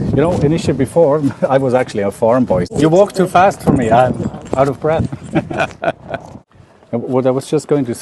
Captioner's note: Sadhguru laughs